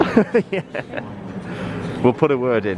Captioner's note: laughing